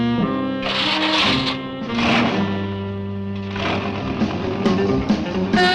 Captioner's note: engine cranks; dramatic music